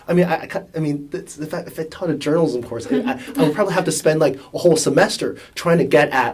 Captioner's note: laugh